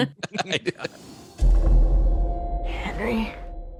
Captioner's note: giggles, laughter